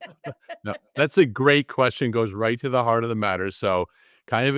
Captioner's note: laugh